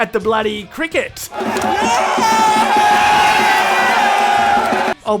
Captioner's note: cheers in background